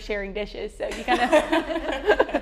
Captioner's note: laughter